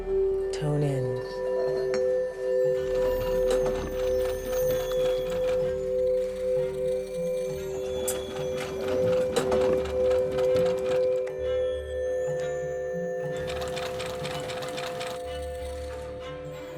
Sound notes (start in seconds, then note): 1.6 bowls singing; 3.1 light suspenseful music; 3.7 machine humming; 7.7 bowls singing; 7.7 machine humming